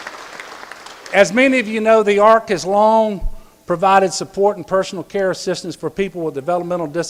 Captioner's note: applause